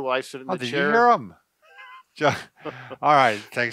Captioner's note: both laughing